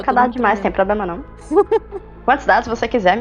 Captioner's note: laughter